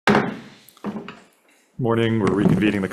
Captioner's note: gavel pounds